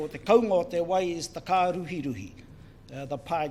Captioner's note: foreign Language